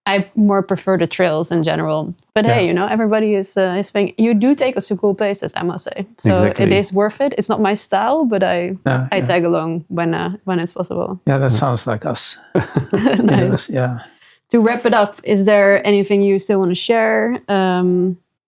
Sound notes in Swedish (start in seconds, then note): 12.5 skratta